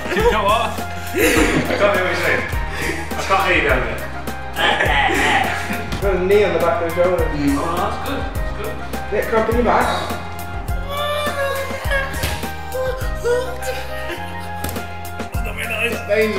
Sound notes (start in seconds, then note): 10.3 wincing